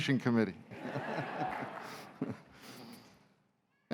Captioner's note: laughter